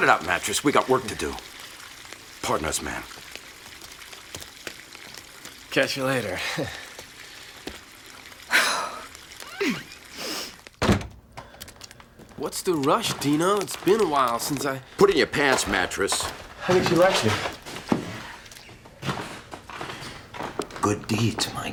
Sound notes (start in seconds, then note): 9.4 chuckles; 10.1 exhales sharply, scoffs